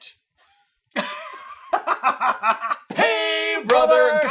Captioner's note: laughter